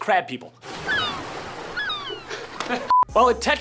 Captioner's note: seagulls squawking